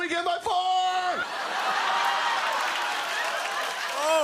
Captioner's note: laughter and applause